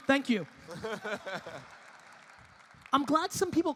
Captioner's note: audience laughing and applauding